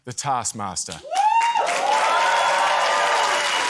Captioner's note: cheering, applause